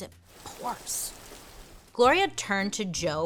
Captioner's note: rain pattering